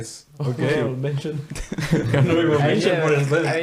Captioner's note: all laughing